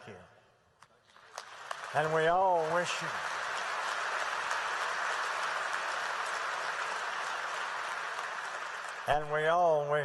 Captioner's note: applause